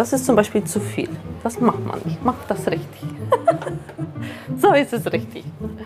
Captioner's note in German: lacht